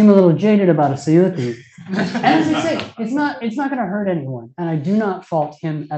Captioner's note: laughter